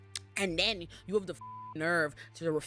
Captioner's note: beep